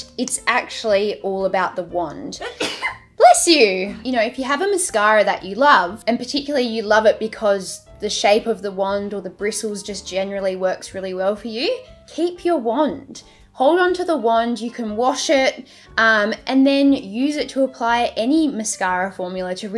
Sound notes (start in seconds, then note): 2.4 videographer sneezes